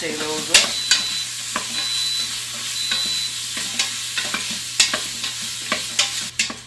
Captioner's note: spoon hitting against pot and pot beeping